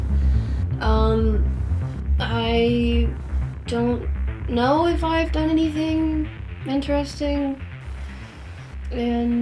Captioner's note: deep breath